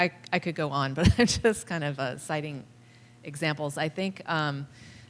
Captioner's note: laughter